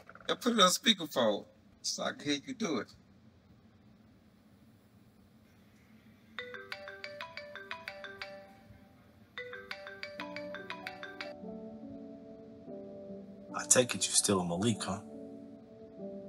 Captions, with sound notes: and put it on speaker phone, so I can hear you do it. [Phone ringing] I take it you're still with Malik huh?